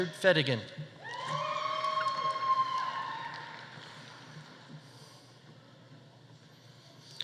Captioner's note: audience cheering; audience applauding